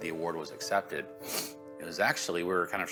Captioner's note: sniffles